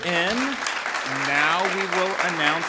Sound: ^applause^

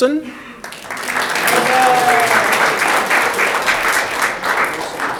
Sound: audience clapping

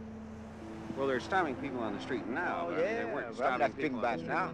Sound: voiceover

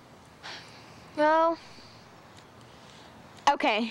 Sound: sighs

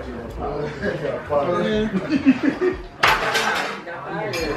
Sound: laughing

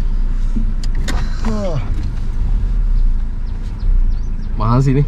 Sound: sighs

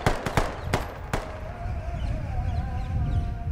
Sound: birds flying away

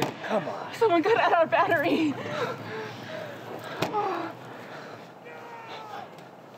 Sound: whimpering; distant shouting

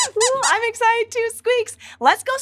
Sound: squeaks squeaking

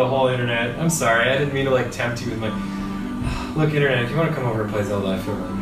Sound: sighs

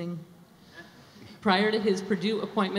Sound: audience laughs

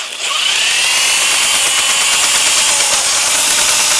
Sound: snake whirring

